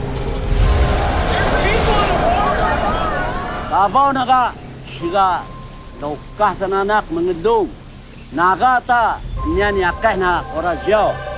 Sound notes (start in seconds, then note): 1.7 crowd yelling indistinctly